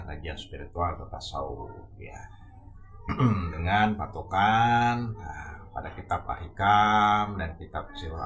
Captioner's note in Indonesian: berdehem